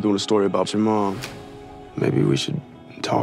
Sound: click

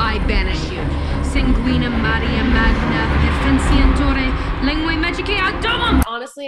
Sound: speaking in foreign language

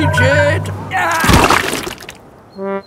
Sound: groans

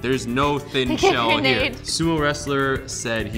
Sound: laughter

